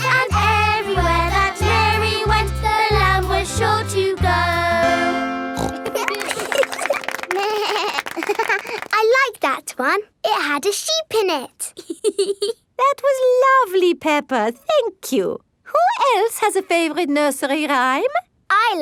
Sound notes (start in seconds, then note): 5.5 snorts; 5.6 laughing; 7.4 bleats and laughs; 11.7 laughs